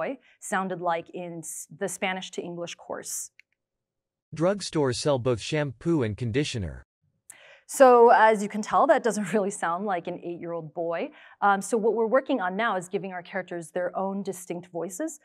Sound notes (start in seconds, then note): 3.9 adult male voice